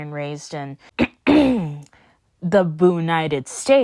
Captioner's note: dramatically clears throat